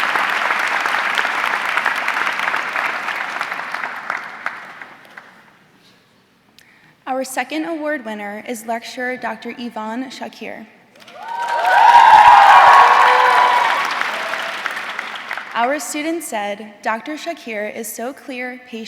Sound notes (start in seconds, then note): 0.0 audience clapping; 11.0 audience cheering